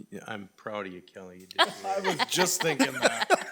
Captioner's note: laughing